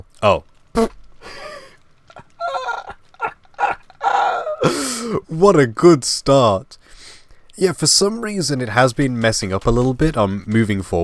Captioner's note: laugh